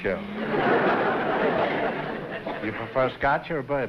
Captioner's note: laughter